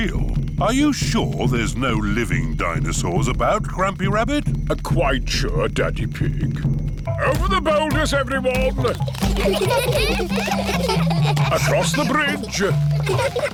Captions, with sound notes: Are you sure there's no living dinosaurs about, Grampy Rabbit? Quite sure, Daddy Pig. Over the boulders, everyone. (CHILDREN GIGGLING) Across the bridge.